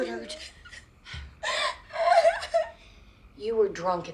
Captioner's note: sobbing